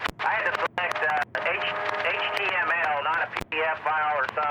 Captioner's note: radio chatter